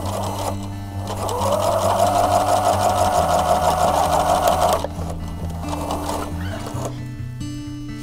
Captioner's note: sewing machine working